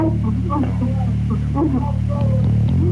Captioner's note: woman sobbing